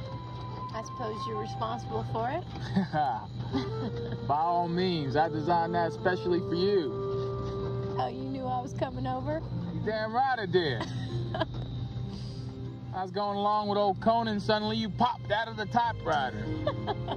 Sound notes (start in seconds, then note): 10.8 Novalyne chuckling